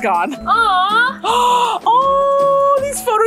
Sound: gasps

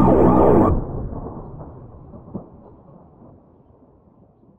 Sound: thunder rumbling

